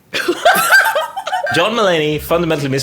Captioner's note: everyone laughs